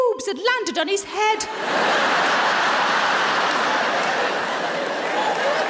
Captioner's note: audience laughing